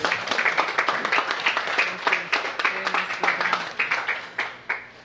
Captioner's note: applause